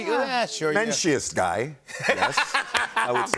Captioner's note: laughter